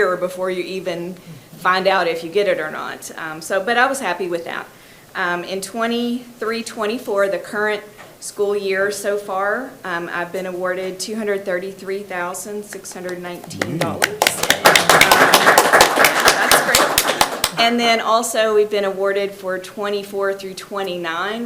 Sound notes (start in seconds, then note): 13.4 people clap